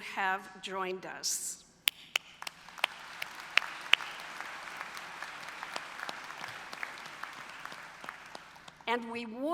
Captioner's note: applause